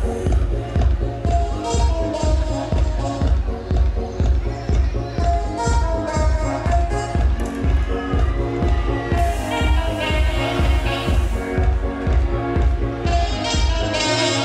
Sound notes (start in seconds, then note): 0.1 upbeat music; 9.0 crowd cheering